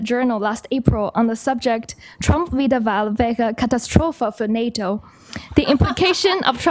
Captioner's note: non-english